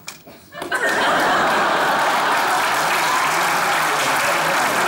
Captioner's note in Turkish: Alkış sesleri